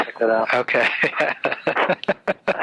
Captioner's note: laughs